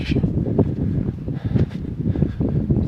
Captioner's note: rumbling wind noise